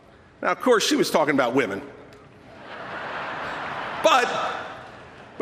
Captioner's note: laughter